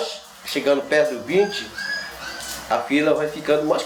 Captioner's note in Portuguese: cão chorando